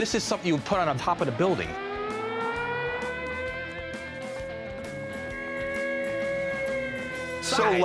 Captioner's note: siren blaring